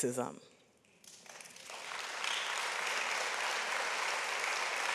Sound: audience applauds

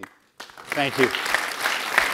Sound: applause

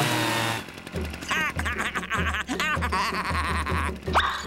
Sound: blower running; laughing

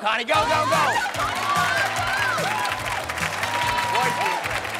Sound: indistinct cheers

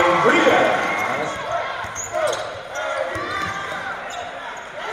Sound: crowd Cheers

